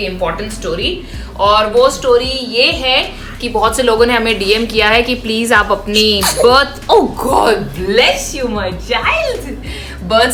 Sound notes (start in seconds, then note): 5.9 sneezes